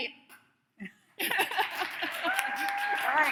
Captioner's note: laughs; audience claps